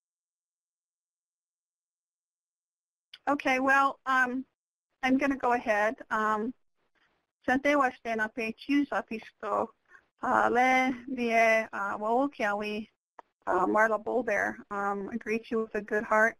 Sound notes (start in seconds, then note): 7.2 speaks in a foreign language